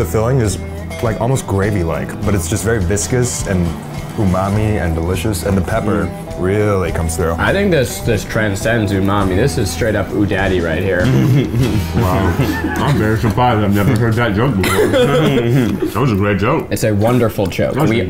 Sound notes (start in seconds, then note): 14.5 laughing